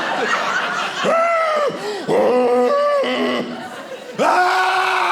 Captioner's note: hyperventilating